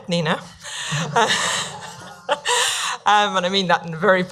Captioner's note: laughing